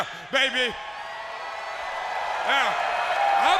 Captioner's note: crowd cheering